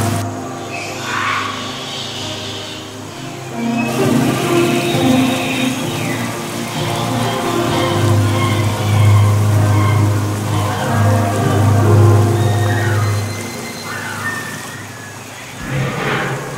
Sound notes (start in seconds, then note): 0.0 oooaaaaah!; 6.8 squeesquawSqueesquawSqueesquawSqueesquaw; 11.0 piano abruptly stops; 12.3 loud scream-like bird caw; 15.6 lion roar